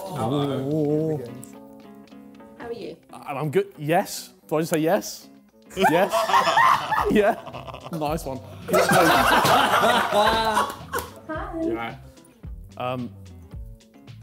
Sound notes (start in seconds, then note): 1.7 suspenseful music; 5.8 laughing